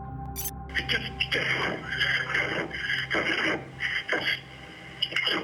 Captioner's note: heavy breathing